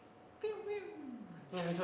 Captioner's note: confused